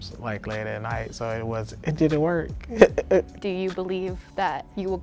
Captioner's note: chuckling